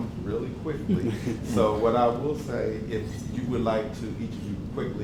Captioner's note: laugh